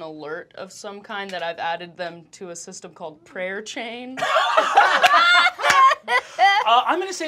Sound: laughter

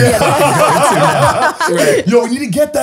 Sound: they laugh

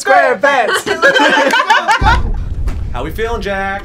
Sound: all laughing

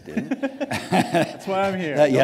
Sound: laughter

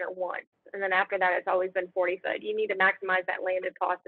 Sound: speaking faintly

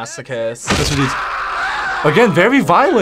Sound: both scream

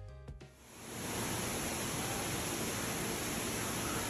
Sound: water rushing

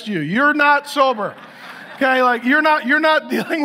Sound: audience laughs

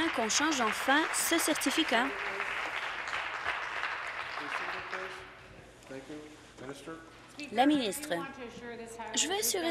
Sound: applause

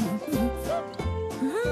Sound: humming happily

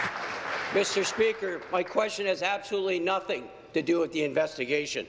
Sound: applause

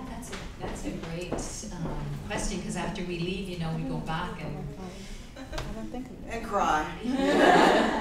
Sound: laughing in the crowd

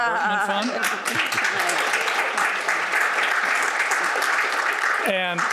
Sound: audience applauding

